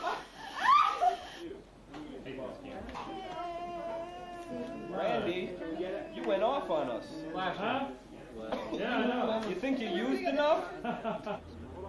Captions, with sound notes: ( whining ) RANDY, YOU WENT OFF ON US. HUH? YEAH, I KNOW. - YOU THINK YOU USED ENOUGH? - ( laughs )